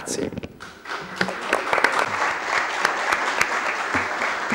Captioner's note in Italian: Applauso